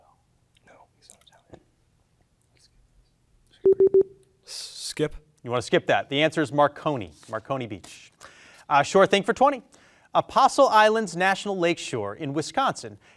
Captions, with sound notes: (students whispering) (tone beeping) - Skip. - You wanna skip that? The answer is Marconi. Marconi Beach. Shore Thing for 20. Apostle Islands National Lakeshore in Wisconsin